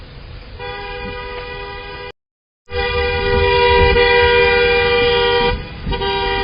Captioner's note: car honks horn